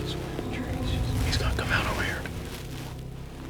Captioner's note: whispering